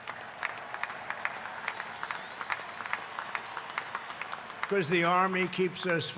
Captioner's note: applause